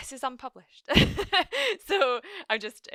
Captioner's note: laughs